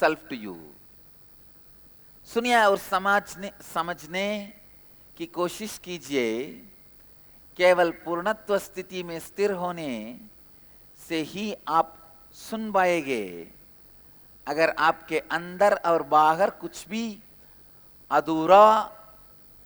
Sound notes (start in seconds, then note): 6.1 hindi